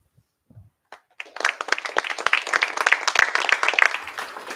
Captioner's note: applause